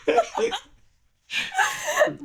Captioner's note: laughing